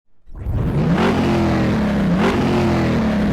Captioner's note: engine roaring